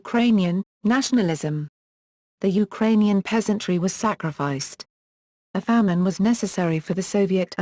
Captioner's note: Ukrainian